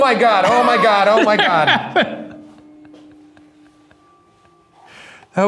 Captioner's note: chuckling